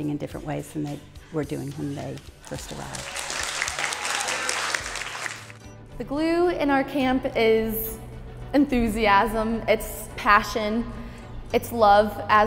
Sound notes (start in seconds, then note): 2.4 applause